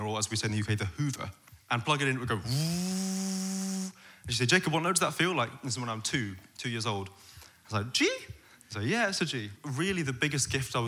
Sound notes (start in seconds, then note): 2.5 vacuum sound